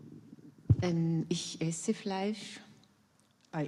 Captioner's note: in German